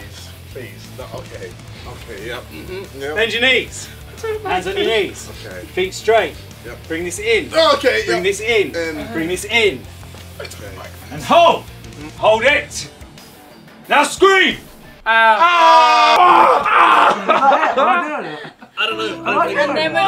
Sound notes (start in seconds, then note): 15.0 group screaming; 15.0 Simon screaming; 16.8 Simon laughing